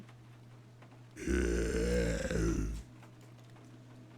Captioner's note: guttural Noises